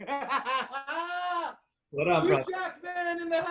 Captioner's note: laughs